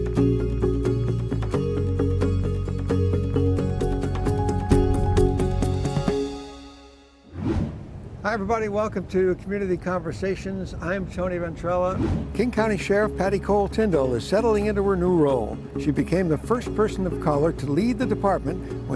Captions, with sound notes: (lighthearted music fades) (logo whooshing) - Hi everybody, welcome to Community Conversations. I'm Tony Ventrella. (logo whooshing) (lighthearted music begins) King County Sheriff, Patti Cole-Tindall, is settling into her new role. She became the first person of color to lead the department